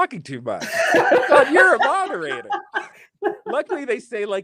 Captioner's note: laughing